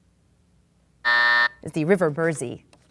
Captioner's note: buzzer sounds